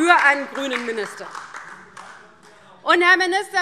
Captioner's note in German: Beifall DIE LINKE und vereinzelt SPD